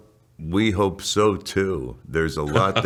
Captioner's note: chuckles